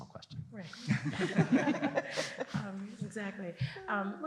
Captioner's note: laughter